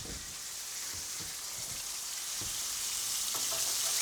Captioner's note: oil sizzling